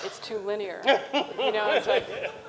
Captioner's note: Ta-Nehisi laughs